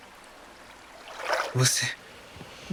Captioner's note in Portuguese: Ruído aquático